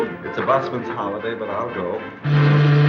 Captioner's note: ship's horn